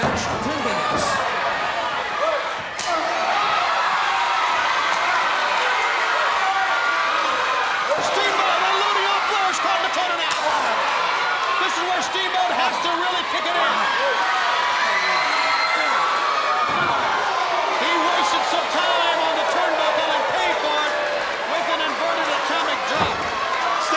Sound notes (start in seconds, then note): 3.0 crowd cheering